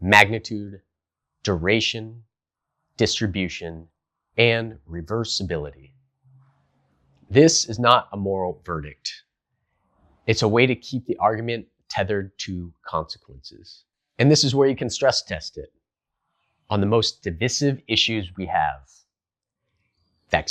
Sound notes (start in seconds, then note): 13.5 beat